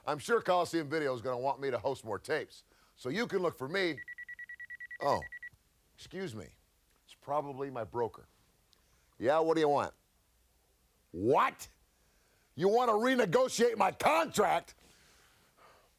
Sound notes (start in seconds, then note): 4.0 cellphone ringing